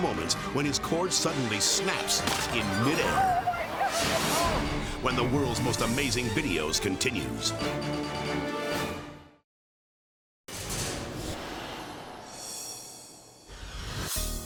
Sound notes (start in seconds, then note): 4.1 dramatic whoosh; 7.9 upbeat music; 10.6 edgy dramatic whoosh